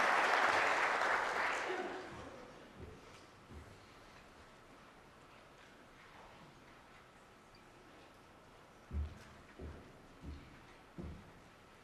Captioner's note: applause